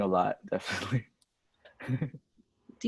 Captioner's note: laughs